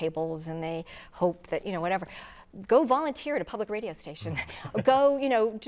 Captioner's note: laughing